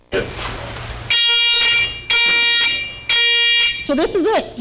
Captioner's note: alarm